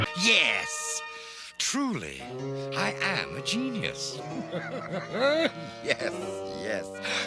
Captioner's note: chuckles